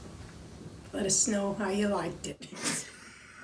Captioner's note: laughing